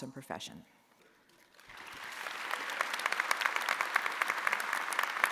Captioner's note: audience applauding